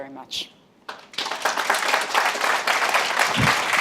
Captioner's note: applause